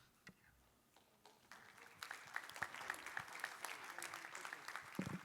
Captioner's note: applause